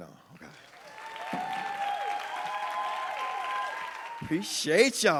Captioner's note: audience applauding and cheering